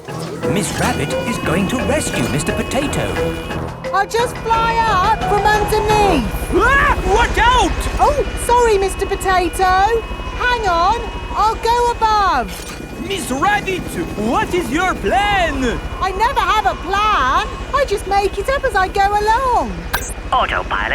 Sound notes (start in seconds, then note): 6.9 screams